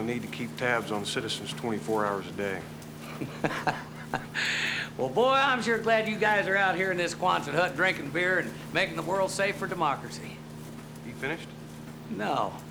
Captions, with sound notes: to keep tabs on citizens 24 hours a day. (chuckles) Well, boy, I'm sure glad you guys are out here in this Quonset hut drinking beer and making the world safe for democracy. You finished? No.